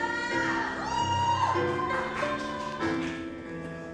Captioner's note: audience cheers